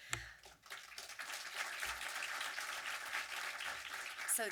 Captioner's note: audience applause